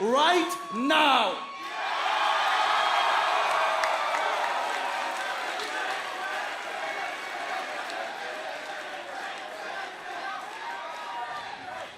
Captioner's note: crowd cheering